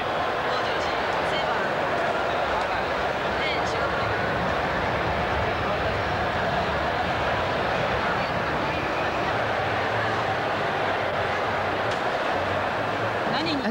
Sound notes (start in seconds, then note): 2.2 applause